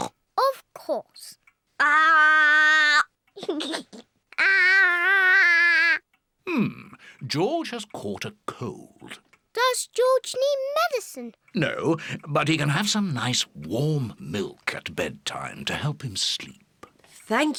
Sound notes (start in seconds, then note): 0.2 oinks; 3.4 giggles